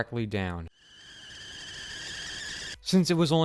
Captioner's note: kettle sound effect